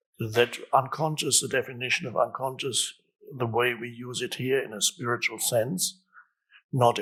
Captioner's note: none